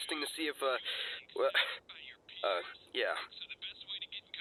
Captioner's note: stutters